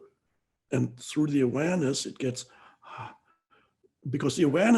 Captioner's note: exhales loudly